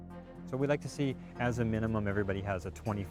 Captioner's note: voiceover